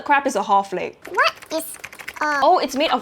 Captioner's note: typing typing